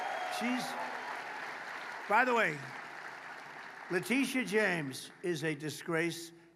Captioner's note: applause